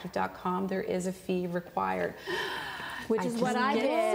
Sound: gasps

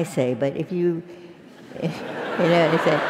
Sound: laugh

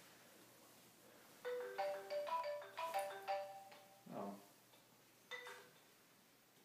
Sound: phone ringing

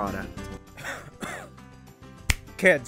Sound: cough; snaps

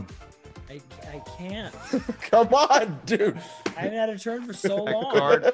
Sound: laugh

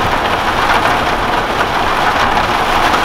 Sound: heavy rain sounds

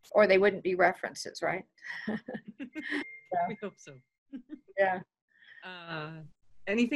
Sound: chuckling

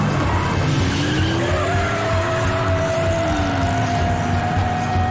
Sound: tires squealing

